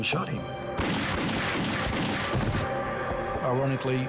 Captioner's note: gun fires